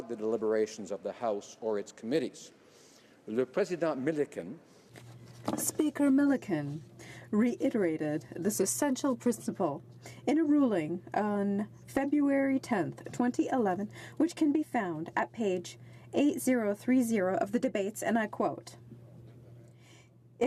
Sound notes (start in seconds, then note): 6.7 speaking French